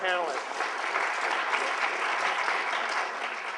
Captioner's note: applause